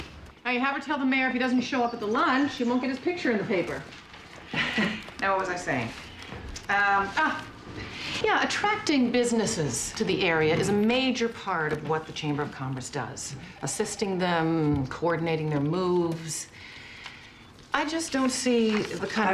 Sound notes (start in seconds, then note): 4.3 laughs